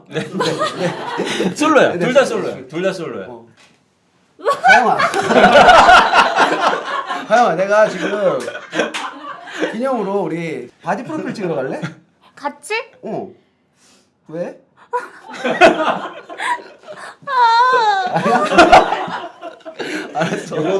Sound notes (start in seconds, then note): 4.4 laughing